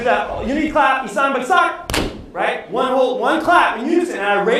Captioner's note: non-english speech